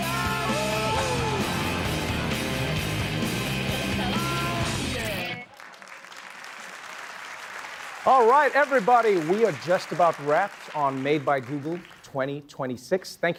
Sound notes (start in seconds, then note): 0.2 cheering; 5.5 applause